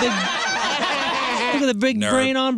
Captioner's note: laughing